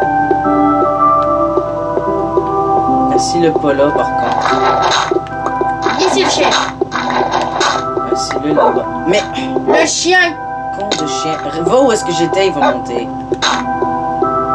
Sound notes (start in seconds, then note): 0.3 music and game sound; 8.8 sighs